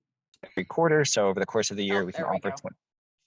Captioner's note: laughing